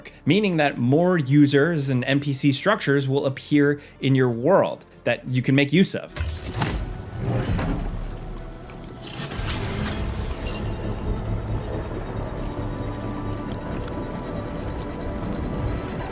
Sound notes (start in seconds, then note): 10.7 building thrumming